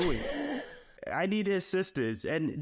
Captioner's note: laughs